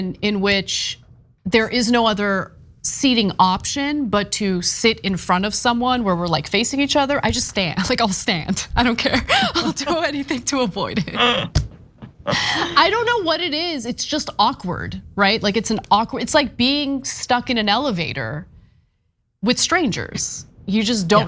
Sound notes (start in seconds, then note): 11.0 laugh